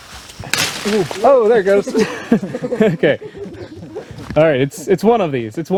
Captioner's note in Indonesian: tertawa